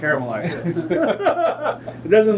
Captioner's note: laughs